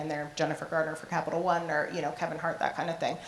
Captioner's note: none